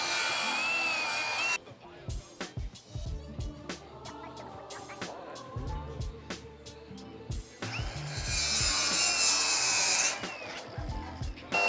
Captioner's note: drill whirring